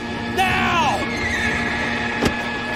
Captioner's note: horse neighs